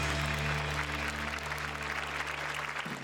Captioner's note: applause